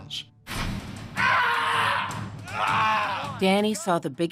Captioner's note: screams